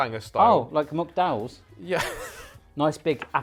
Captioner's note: laughs